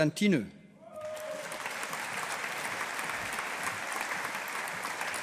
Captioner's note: audience applauding